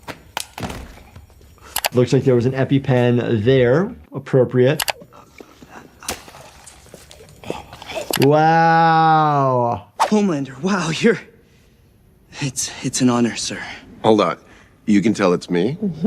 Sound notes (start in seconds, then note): 0.1 EpiPen taps; 5.1 labored breathing